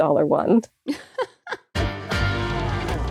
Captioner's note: cackles weakly